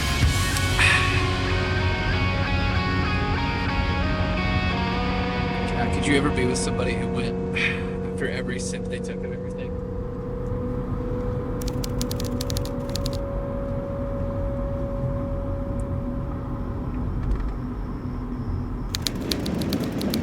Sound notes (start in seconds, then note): 0.8 sighing; 15.9 crickets chirping